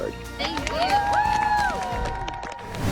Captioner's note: cheering; air whooshing